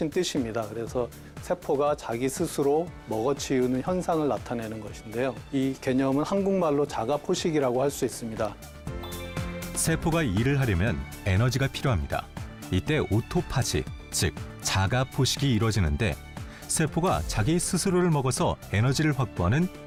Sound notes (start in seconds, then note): 5.2 voiceover